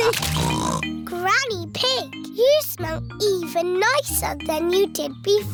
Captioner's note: snorts